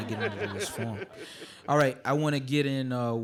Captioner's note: audience laughing